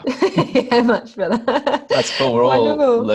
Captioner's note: giggles; laughing